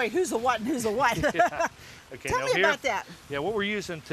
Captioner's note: laughs